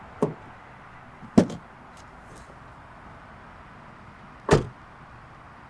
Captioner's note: car engine revving; door slamming; door creaking; door slamming; traffic buzzing continues